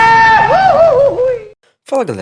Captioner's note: screams of despair